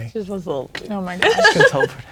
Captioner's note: laughing